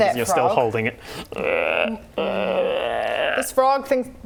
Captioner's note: frog cry